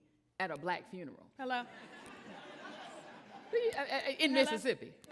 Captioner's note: audience chattering